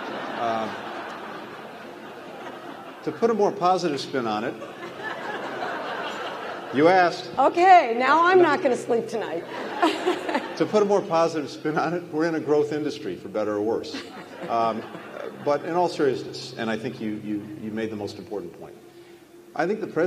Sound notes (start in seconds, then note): 0.0 laughter; 4.4 laughter; 9.3 laughter; 13.8 laughter